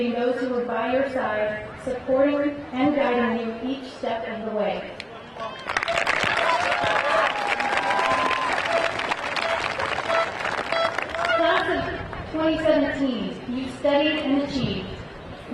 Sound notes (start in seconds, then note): 5.1 crowd cheering; 5.3 crowd applauding